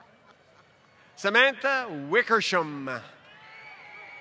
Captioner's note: laughter